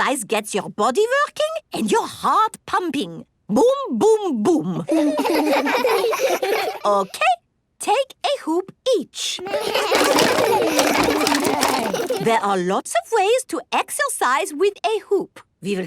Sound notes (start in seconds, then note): 4.9 laughs; 9.4 all laugh